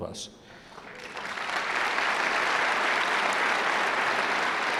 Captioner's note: audience claps